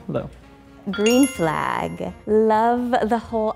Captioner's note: bell dings